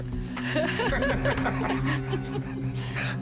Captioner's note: laughter